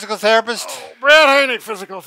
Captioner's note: groans